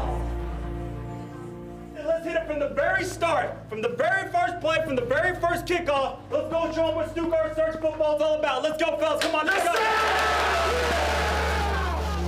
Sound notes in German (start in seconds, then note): 9.6 Schreie